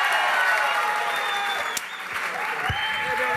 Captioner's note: applause